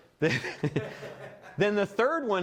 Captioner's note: audience laughs